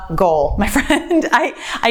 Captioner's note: laughs